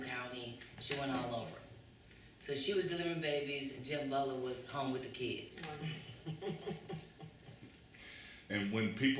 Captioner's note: laughter